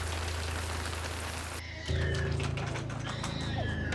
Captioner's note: baby crying